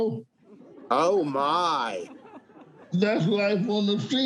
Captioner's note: audience laughing